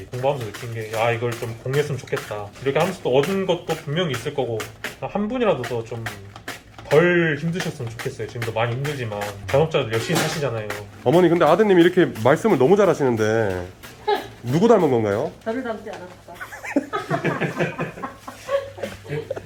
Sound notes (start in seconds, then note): 14.0 laugh